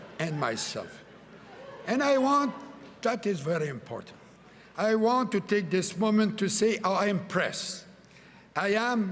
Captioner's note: laughter